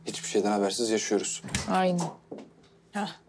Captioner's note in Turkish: Kapı açıldı